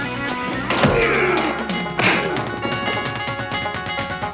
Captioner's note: both grunting